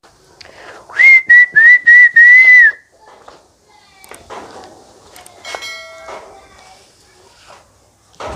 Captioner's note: whistling